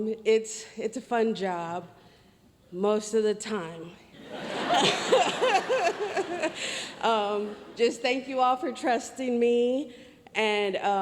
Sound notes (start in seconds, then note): 4.2 audience laughs; 4.5 laughs